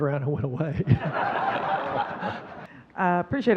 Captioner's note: audience laughing